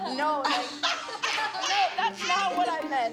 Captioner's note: laughter